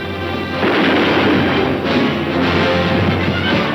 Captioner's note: gun firing